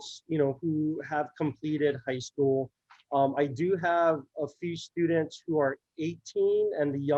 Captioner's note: none